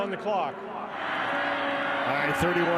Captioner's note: fans cheer